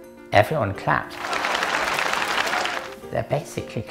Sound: sound of clapping

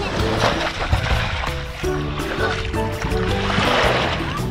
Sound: water splashing

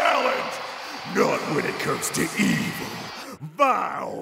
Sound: crowd cheers

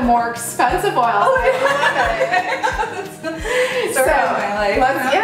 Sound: laughter

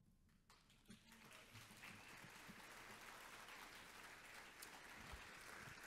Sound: audience applauds

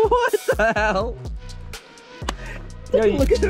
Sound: laughs

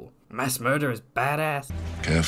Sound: terrible DeVito impression

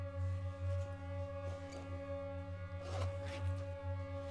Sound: unzipping bag

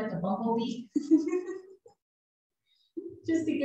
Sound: chuckling

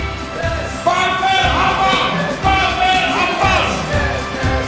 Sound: chanting

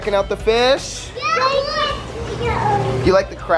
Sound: exclaim

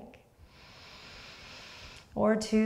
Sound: deep breath

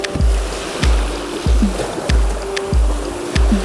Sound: rapids

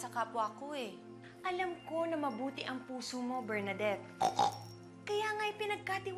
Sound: snorts

